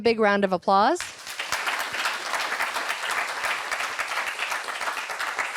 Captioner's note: applause